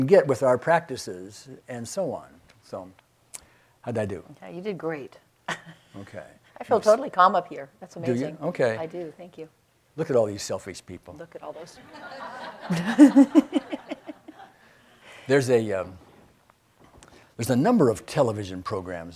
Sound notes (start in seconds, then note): 11.5 laughs; 11.6 audience laughing